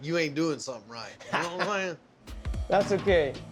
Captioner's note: laughs